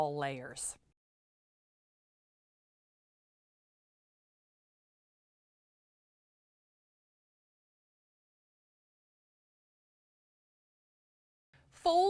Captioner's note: no Sound Present